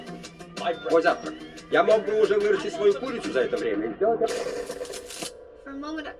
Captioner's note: man speaking foreign language